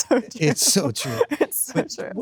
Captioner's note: Sydney laughs